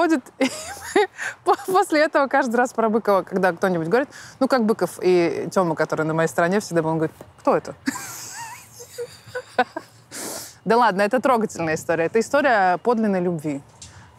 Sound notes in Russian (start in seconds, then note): 0.3 смеясь; 7.9 смеется